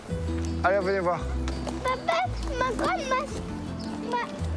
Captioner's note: speaking foreign language